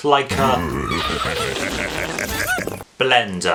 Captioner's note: Blender laughs wickedly